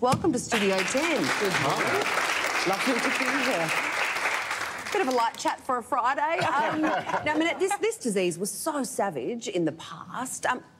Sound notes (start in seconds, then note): 0.5 audience applauding; 6.3 laughter